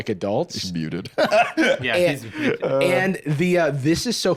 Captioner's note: laughs